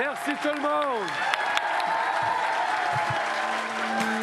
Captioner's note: speaking French